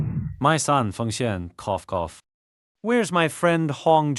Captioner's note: cough